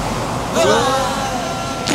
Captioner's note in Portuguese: All gritando; grunhidos Zayn